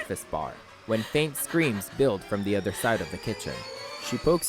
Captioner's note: when faint screams build from the other side of the kitchen